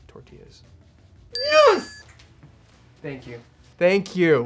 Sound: bell dings

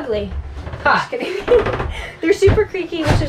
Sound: laughs

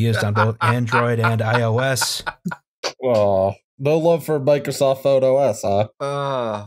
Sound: cackling in react

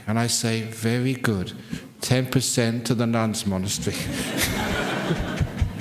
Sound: laughter

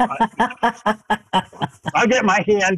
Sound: laughs

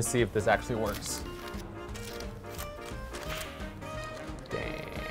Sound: paper rustling

